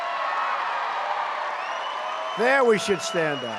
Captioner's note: applause